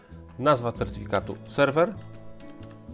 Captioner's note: in Polish